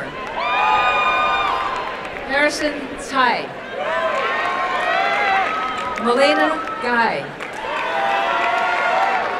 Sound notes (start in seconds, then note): 0.1 applause and cheering; 3.7 applause and cheering